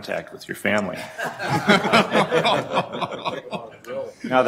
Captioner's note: laughter